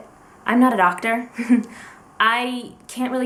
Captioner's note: short laugh